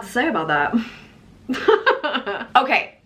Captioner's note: laughs